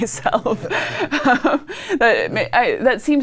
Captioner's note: laughs quietly